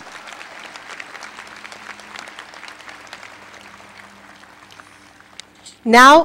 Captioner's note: applause